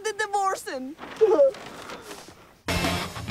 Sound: Bjorn sobbing

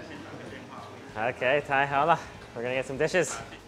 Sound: speaks in foreign language

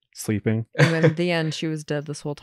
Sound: laughs

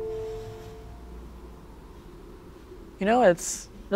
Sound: wind howling

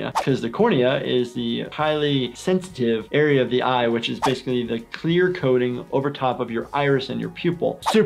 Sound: none

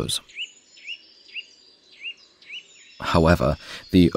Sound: sounds of nature

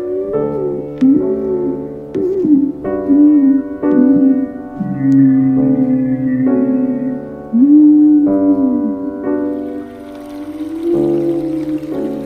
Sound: distant muffled cries of dinosaurs

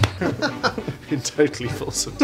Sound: laughter

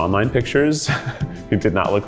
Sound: chuckles

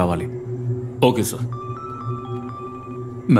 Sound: phone Ringing

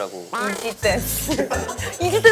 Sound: haha

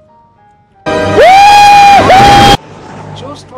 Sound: more screeching

